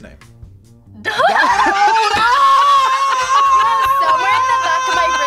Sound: screams

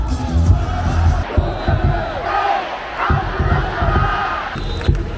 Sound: cheering related to pick-off attempts

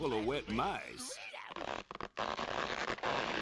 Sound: rope creaking

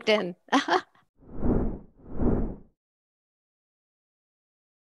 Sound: wind whooshing

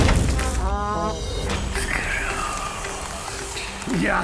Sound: music deflates; voice whispering

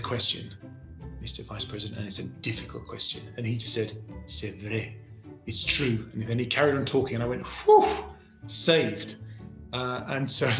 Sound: speaking french; french

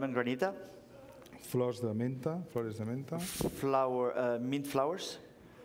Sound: speaking catalan

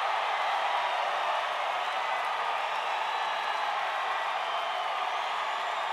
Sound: applause

